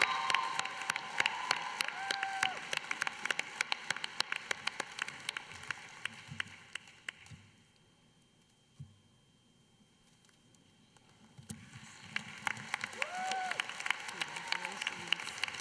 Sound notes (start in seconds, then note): 0.0 applause